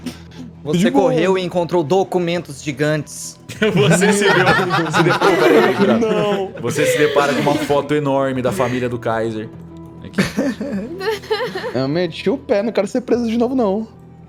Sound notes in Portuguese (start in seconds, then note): 3.5 risos